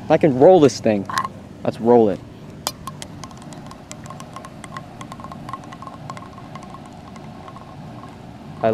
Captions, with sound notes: I can roll this thing. Let's roll it. (plastic hitting ground)